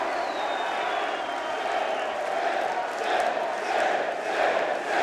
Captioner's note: crowd chants "Sid"